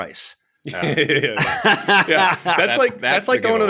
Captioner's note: laughter